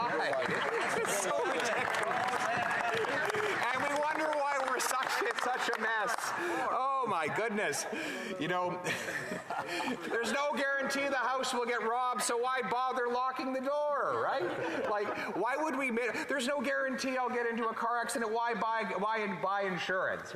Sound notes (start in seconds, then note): 7.5 some applause